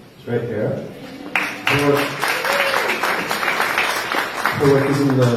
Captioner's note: applause